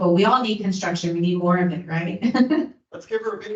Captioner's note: laughs